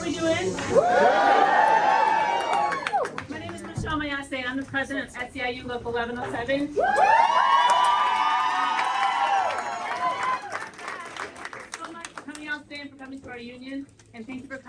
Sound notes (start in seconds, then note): 0.6 crowd: cheering; 6.8 cheering